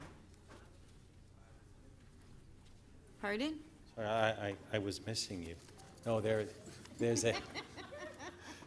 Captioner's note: laughter